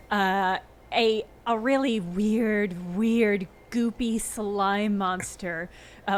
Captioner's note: none